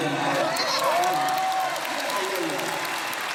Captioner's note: ovation